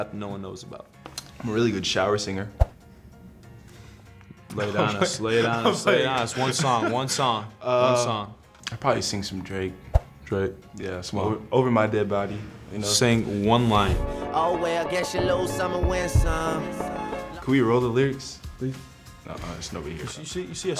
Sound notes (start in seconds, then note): 7.1 laughing